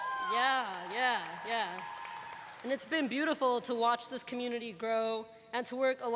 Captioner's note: cheers and applause